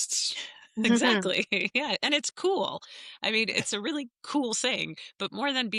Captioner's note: laughter